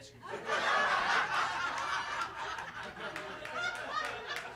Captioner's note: audience laughs